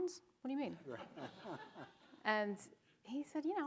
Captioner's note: audience chuckling